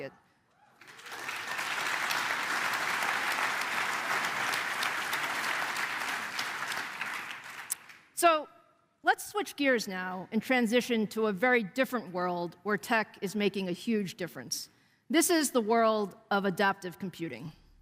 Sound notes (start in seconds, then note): 5.3 applause